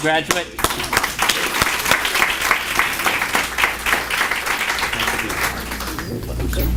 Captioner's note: applause